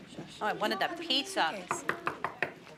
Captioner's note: knock on door